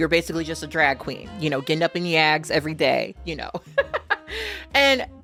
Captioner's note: laughs